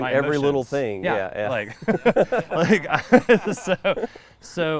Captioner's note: laughing